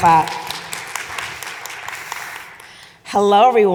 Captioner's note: audience applauding